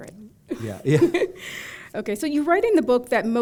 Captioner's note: chuckle